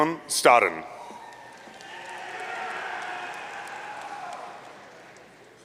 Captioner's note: audience cheering